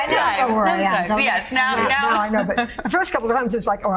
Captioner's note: laughter